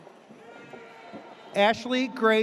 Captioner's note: audience cheers